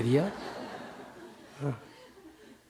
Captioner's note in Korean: 청중 웃음